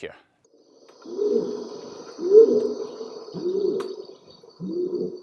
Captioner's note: orangutan howling